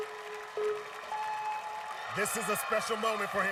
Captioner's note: countdown clock beeping